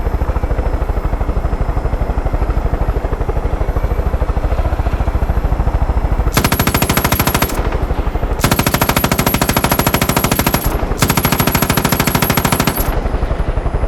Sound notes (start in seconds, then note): 0.3 helicopter whirring; 6.3 gunfire